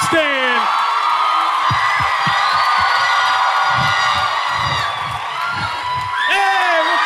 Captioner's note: cheering